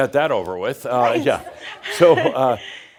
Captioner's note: she chuckles